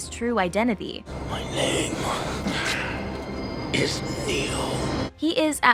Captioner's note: grunting